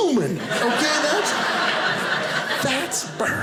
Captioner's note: audience laughing